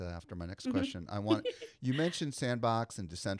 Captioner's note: giggling